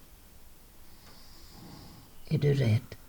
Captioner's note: snoring